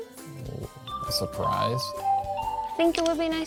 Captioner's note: phone ringing